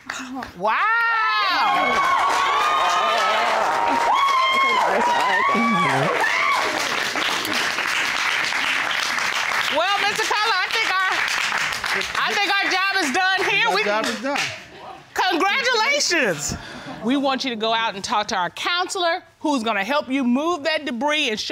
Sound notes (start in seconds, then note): 0.6 audience cheering